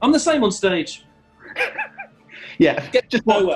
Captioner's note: sniggering